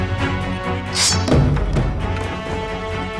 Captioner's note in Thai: เสียงลูกดอก